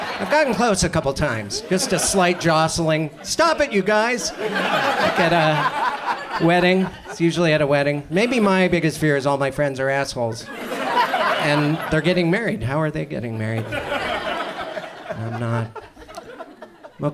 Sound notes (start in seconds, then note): 4.5 audience laughs; 10.2 audience laughs; 13.5 audience chuckles